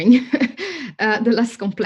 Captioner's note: laughs